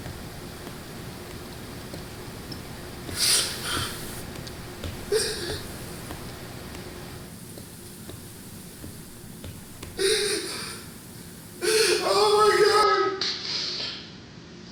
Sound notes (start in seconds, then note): 11.2 heavy Breathing